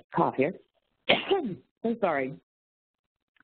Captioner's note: coughs